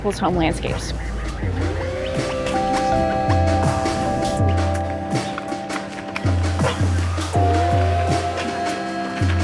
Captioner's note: bird calling, voices